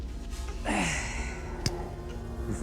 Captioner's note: grunts